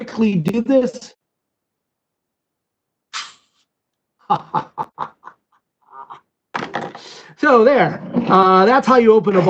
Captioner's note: laughter